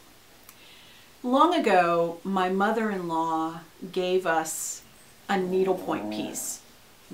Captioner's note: dog offscreen groans